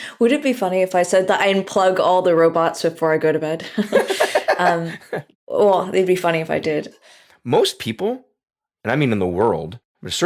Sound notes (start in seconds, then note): 3.7 laughs